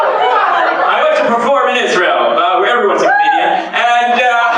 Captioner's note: laughter; laughter